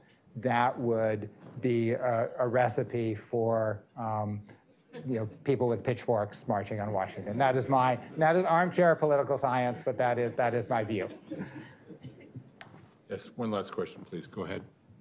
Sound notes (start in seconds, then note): 8.1 laughter